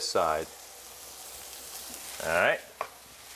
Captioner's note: pan sizzling